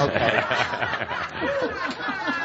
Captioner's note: much laughter